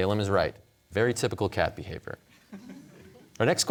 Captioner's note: audience chuckling